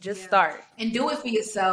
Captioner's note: none